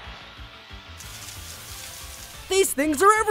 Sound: grass rustles

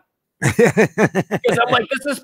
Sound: laughing

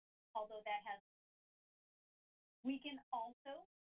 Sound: audio cuts

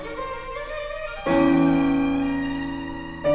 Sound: none

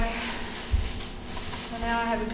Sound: rustling

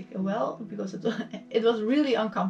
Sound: chuckles

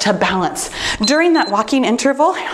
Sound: timer beeps

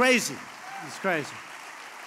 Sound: applause

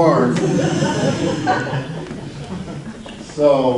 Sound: audience laughs

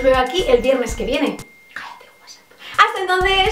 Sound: Whatsapp sound

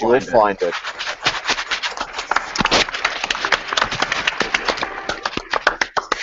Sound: applause

